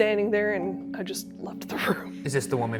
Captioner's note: laughing